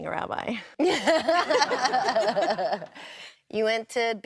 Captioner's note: laughs